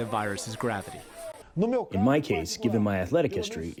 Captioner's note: through translator